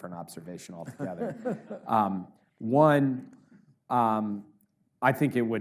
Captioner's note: audience laughs